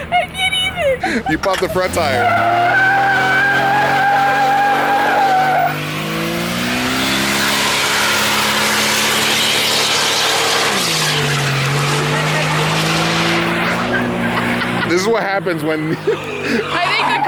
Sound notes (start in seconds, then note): 3.1 car revving